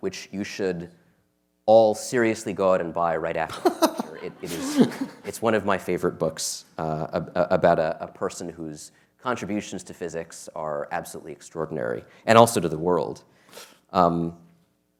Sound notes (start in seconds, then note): 3.5 laughter